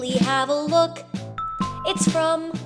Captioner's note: ding Dong